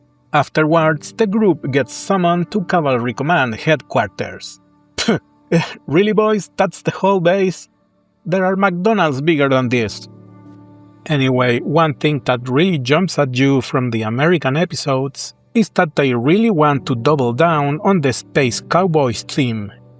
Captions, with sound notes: afterwards the group gets summoned to cavalry command headquarters *mocking sounds* really boys that's the whole base? there are McDonald's bigger than this anyway one thing that really jumps at you from the American episodes is that they really want to double down on the "space cowboys" theme